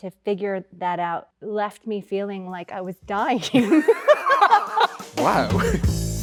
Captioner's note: laughs